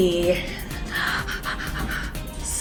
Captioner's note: breathing excitedly